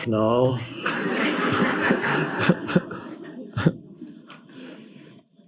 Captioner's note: audience laughs